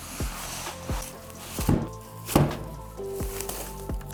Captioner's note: styrofoam rustling; projector thuds; packaging rustling